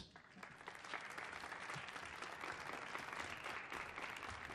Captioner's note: audience clapping